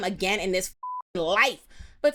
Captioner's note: beep